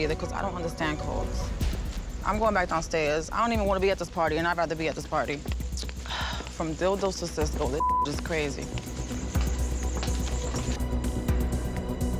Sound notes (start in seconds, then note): 6.3 sigh; 7.8 beep; 8.0 dramatic music